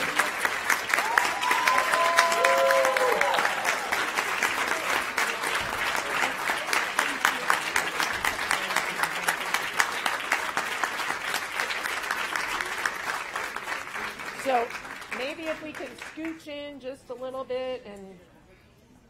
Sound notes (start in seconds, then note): 8.0 cheers and applause